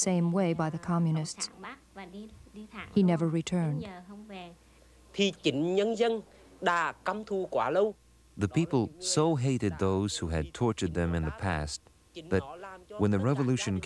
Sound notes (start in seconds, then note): 4.6 speaking Vietnamese